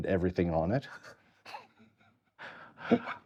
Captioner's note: laughing